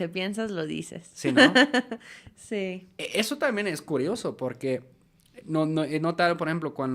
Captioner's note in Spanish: risas